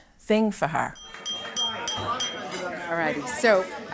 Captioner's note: glass clinking